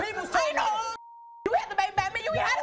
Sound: beeping

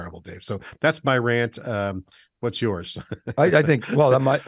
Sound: laughs

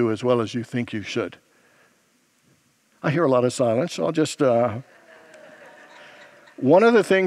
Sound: congregants laugh

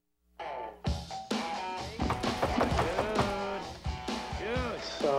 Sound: knock On Door

